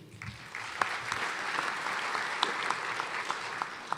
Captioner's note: applause